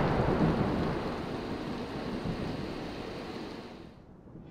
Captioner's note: thunder